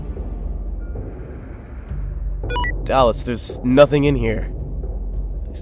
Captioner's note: on the Radio